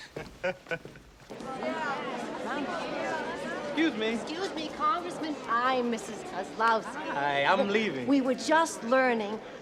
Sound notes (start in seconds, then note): 0.0 chuckling; 2.5 indistinct Chatter